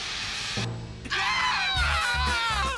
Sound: all cheering

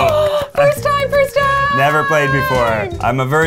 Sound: claps

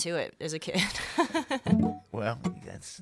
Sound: laughs

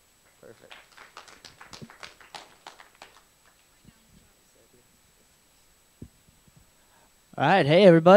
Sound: applause

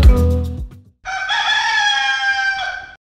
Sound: rooster sound

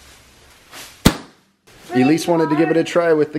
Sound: nail gun fires

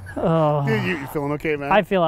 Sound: moaning

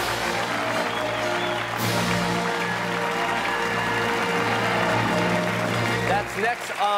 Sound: fanfare plays; cheers and applause

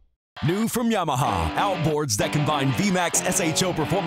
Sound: voiceover

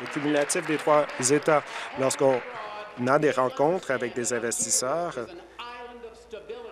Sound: applause

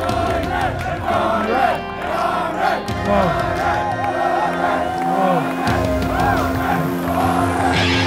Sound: crowd cheering

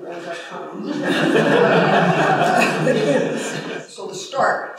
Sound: laughter

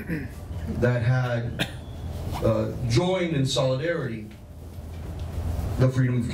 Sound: cough

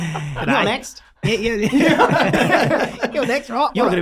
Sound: all laughing

